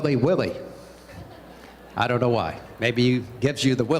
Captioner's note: laughter